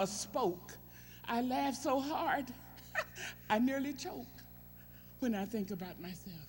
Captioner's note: laughs